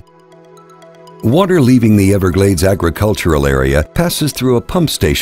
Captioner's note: voiceover